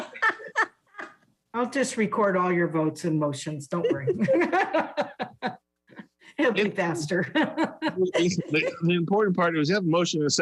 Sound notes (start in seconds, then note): 0.0 laughs; 7.1 laughs